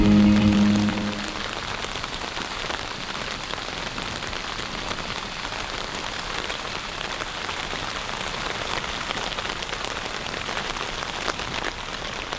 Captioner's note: rain falling